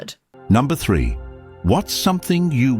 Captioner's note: AI Voice